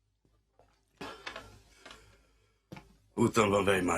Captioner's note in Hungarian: idegesen nyel, sóhajt